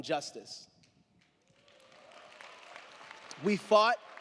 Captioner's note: crowd clapping; crowd cheering